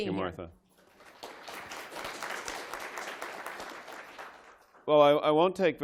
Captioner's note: applause